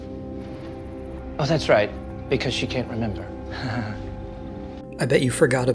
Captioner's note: laughs